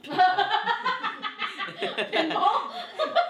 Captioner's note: laughs